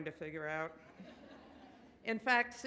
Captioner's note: audience laughs